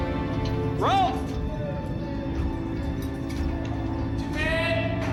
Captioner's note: speaks in foreign language